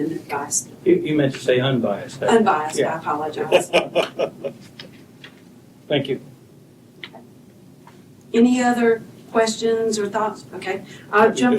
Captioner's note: laughter